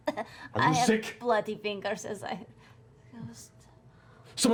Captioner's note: coughing